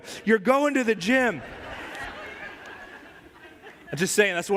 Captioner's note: risas de congregación